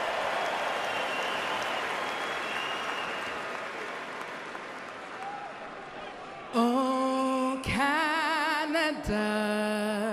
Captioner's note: cheering and Applause